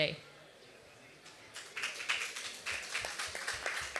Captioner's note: applause